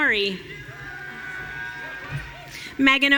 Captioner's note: audience cheering